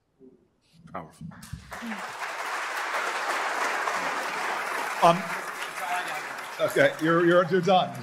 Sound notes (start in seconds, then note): 1.5 applause